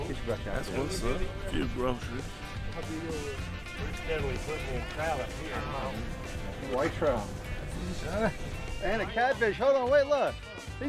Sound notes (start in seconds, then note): 3.2 men chatting; 4.9 upbeat country music